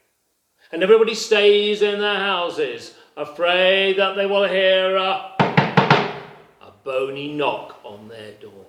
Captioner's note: knocks